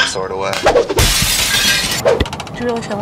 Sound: glass shattering

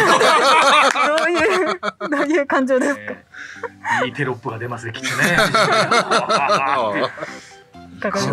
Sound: laughs

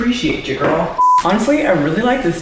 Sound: beeping

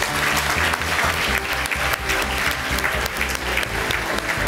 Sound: audience applauds

